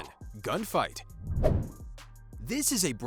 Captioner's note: playful whoosh